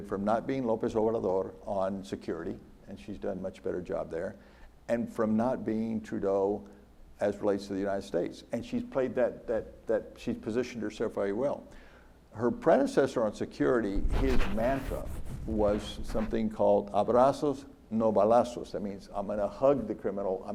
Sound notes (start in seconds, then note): 16.8 speaks in foreign language